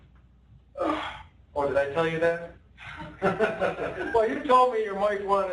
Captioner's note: laughter